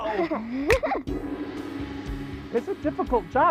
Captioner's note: finger snaps; gong